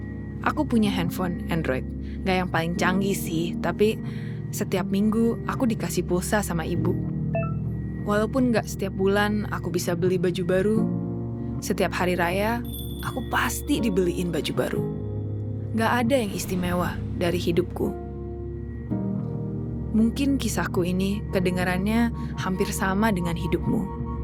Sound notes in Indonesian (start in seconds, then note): 7.3 Notifikasi pesan